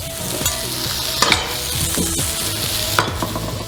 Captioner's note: sizzling